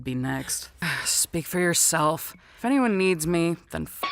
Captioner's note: sigh